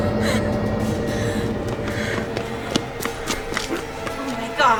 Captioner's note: whimpering